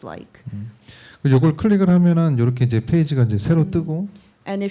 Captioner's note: speaking korean